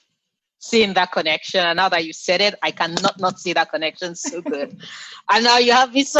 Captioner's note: laughs